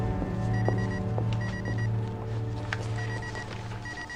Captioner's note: pager beeping